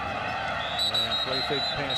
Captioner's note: whistle blows